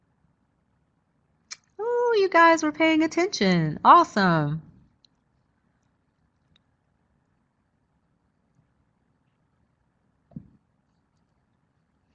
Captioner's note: more silence as poll results come in